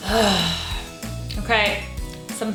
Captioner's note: groans